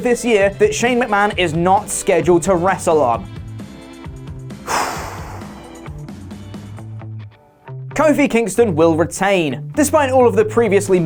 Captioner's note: sigh